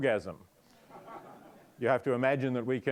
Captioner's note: audience laughing